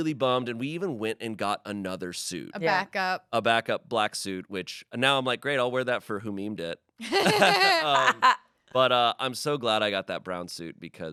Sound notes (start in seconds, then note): 7.1 everyone laughs